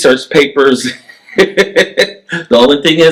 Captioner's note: laughs